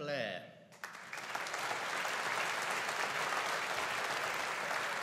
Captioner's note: audience applauding